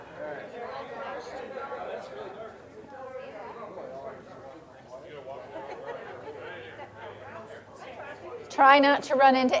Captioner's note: general chatter